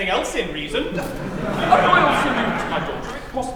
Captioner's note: laughter